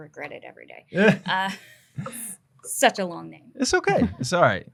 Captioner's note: laughs